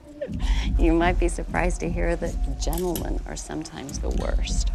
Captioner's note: laughs